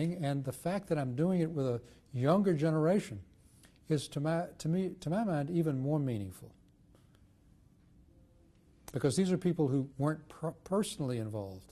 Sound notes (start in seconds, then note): 6.3 pauses for 3 seconds